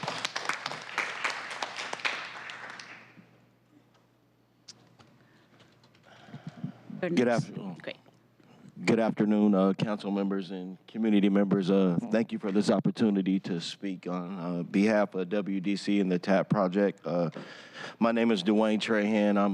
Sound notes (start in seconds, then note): 8.5 applause